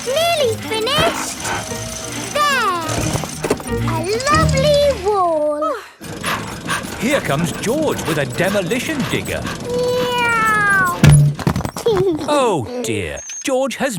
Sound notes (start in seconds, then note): 0.0 peppa laughing; 5.7 daddy pig panting; 9.9 george imitates airplane; 12.1 george giggles